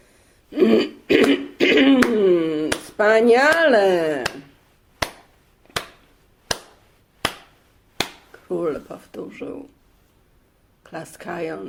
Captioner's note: clapping